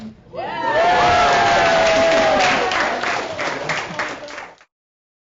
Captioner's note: loud cheering